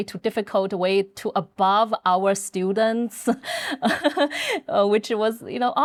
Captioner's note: laughing